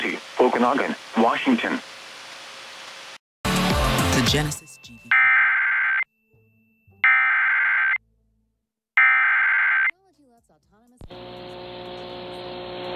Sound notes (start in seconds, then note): 5.0 SAME header tones